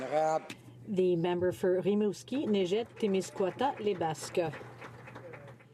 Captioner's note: some Applause